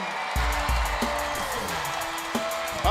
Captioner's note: crowd cheering